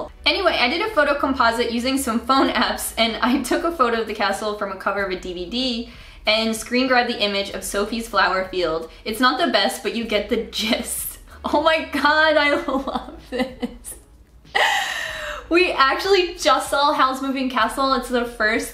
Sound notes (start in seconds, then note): 12.5 laughing